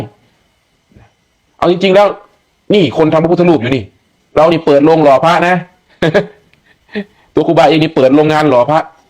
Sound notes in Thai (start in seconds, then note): 6.0 เสียงหัวเราะ